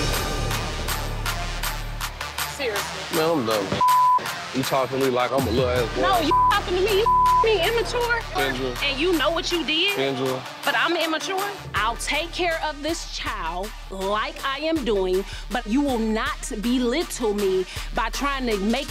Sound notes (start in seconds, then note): 0.1 dramatic music; 3.8 beep; 6.2 beep